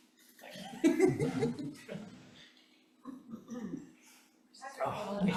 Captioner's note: chuckles; council laughs